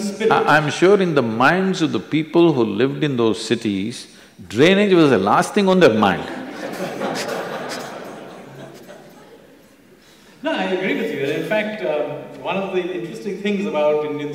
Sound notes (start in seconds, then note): 9.0 laughter